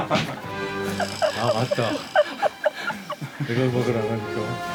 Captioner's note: sound of fans distress and sadness